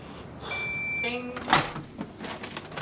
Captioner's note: oven beeps